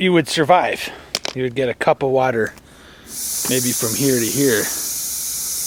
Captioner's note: hiss of train car brakes